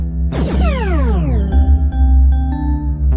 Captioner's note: teleportation sound